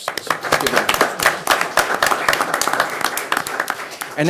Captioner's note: clapping